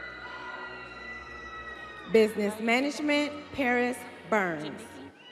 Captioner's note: students cheering